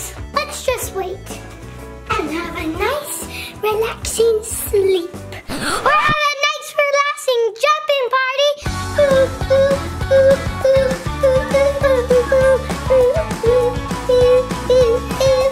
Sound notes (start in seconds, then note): 8.7 upbeat music; 9.0 humming